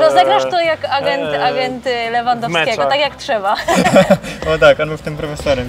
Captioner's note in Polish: śmiech